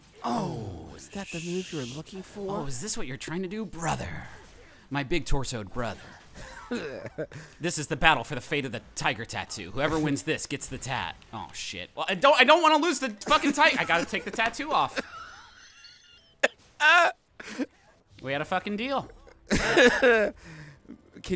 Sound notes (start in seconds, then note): 6.4 chuckling; 14.7 laughing; 15.0 wheezing; 19.1 laughing